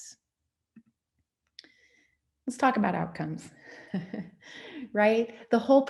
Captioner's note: laughs